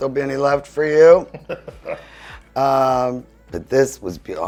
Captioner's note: laughing